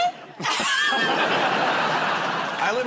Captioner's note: laughter